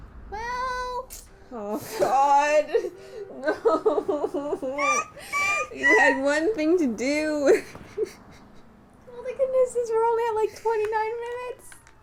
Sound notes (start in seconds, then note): 1.8 pained; 3.4 laughter; 7.3 laughing